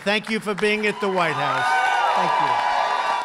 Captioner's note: applause